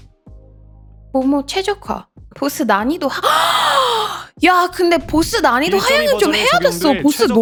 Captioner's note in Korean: 헉 소리